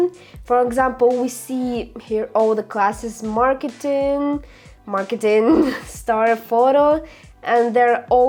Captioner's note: laughter